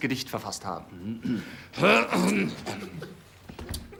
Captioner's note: clears throat